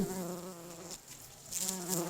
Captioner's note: bee buzzing